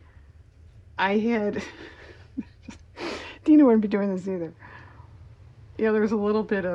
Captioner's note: laughs